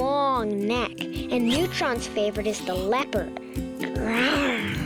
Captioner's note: growls